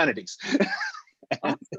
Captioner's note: laughing